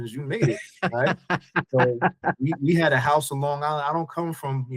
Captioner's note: laughing